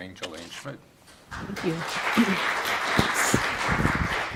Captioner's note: audience clapping